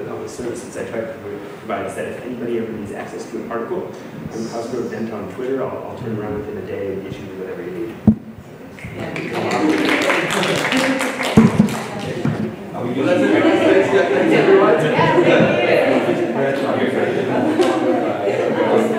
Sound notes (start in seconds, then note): 8.8 applause; 12.9 hubbub